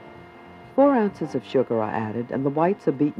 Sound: voiceover

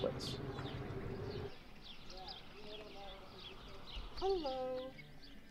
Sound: birds chirping

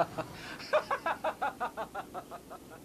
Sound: laughing continues

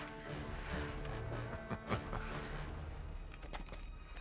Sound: laughs

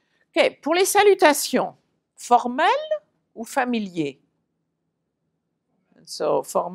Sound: french

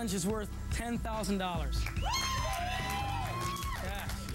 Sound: cheering

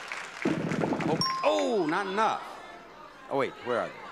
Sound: bell dings

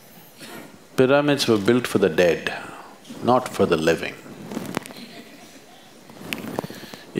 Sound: laughs

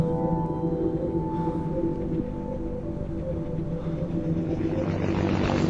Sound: helicopter whirring

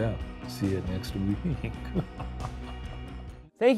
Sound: chuckling

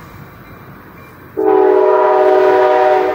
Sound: more loud horns

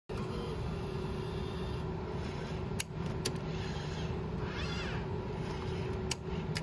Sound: machine noises

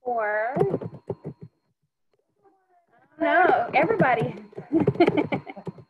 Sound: laughing

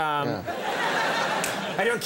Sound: audience laughs

